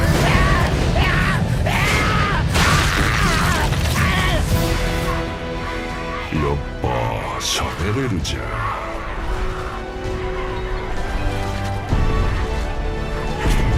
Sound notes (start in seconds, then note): 4.8 MICHE groans, screams